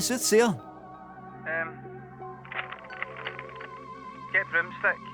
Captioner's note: paper rustling